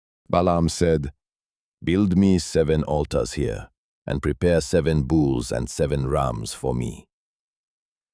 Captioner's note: thoughtful